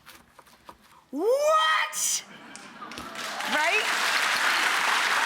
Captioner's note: people clapping